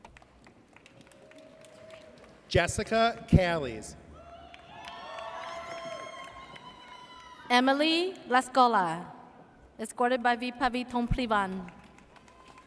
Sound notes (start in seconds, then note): 1.1 audience cheers; 4.1 audience cheers